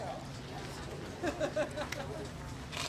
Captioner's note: crowd member laughing